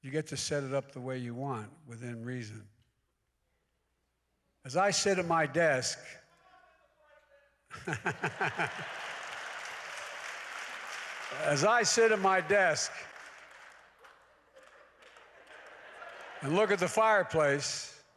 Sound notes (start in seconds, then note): 10.3 laughs; 10.9 applause